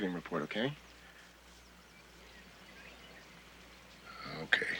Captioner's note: sighing